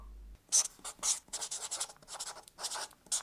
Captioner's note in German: Kratzender Stift